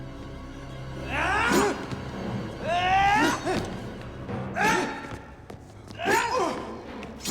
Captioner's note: Gammon yells; ax whooshes